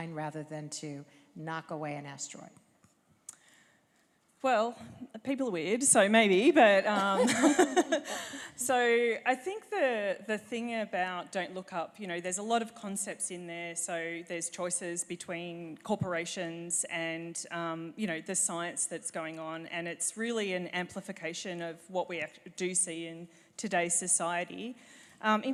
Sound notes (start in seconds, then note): 7.2 chuckle